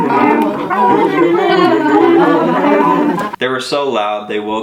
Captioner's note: ear screeching animal noises